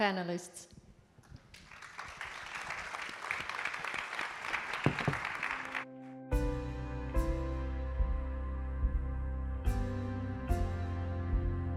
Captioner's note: applause